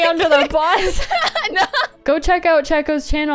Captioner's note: laughs